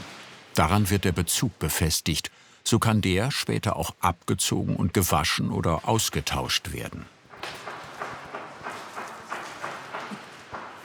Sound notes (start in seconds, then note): 7.2 distant hammering